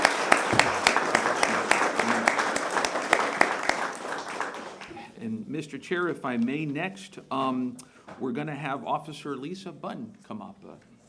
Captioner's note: applause